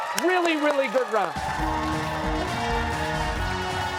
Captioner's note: cheers and applause